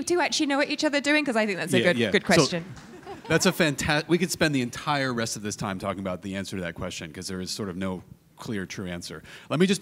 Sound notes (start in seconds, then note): 2.2 panelist laughing